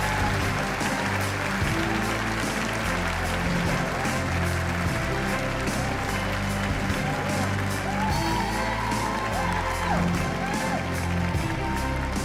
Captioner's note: cheers and applause